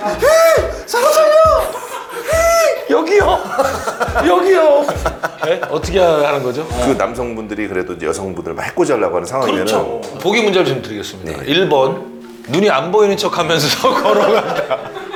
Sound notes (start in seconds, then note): 0.0 whistle